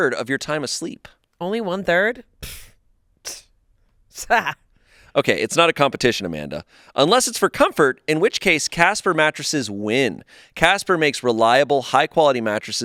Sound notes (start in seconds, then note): 2.4 blows raspberry